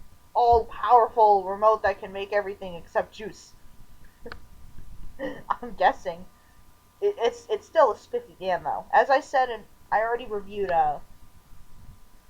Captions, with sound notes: all-powerful remote that can make everything except juice. I'm guessing! (stammering) It's still a spiffy van though. As I said in- I already reviewed, uh...